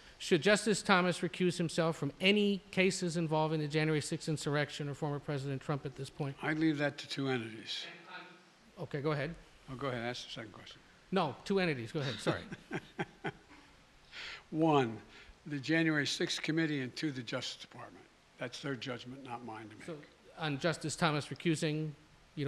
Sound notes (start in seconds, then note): 12.0 laughs